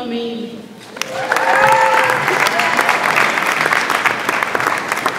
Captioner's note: audience applauds